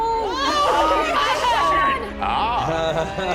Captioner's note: screaming; laughs